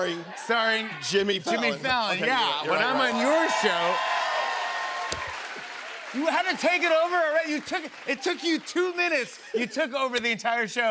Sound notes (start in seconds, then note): 2.6 cheers and applause